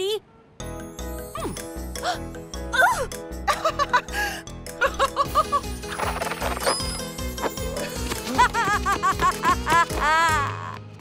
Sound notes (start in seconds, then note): 0.3 giggles; 5.5 maniacal laughter